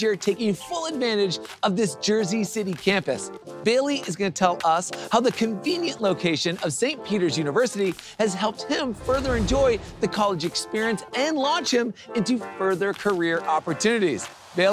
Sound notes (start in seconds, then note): 8.8 graphics whoosh